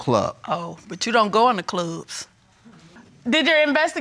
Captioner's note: sarcastically